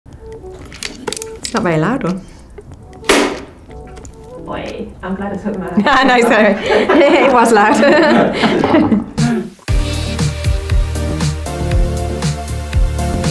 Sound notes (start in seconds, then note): 2.9 clapper bangs loudly; 8.2 laughs